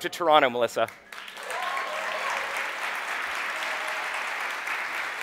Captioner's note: audience applauding